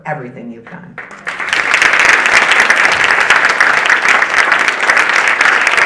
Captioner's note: audience applauding